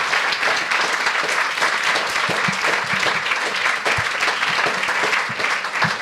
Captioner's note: audience applauds